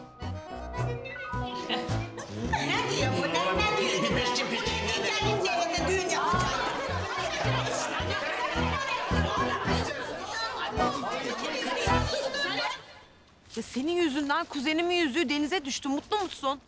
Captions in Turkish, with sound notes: (Tartışıyorlar) Ya senin yüzünden kuzenimin yüzüğü denize düştü. Mutlu musun?